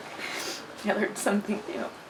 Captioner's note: nose sniffling